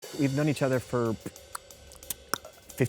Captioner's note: Kristen mouth clicking; mouth clicks